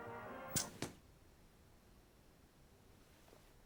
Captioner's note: TV Zaps Off